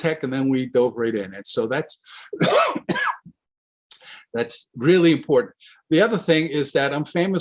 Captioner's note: coughs